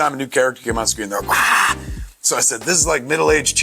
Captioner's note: Kevin shouts